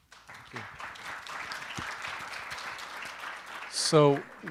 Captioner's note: applause